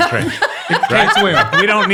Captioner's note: all laugh